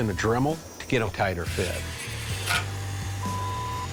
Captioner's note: tool whirring